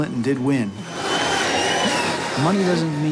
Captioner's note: cheering